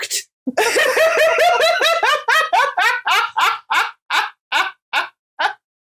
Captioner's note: dying laughing at struggles